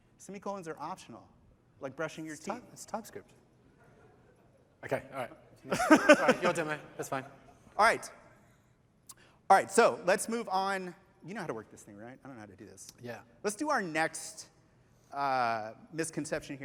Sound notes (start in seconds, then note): 5.6 laughter